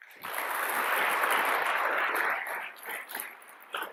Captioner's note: applause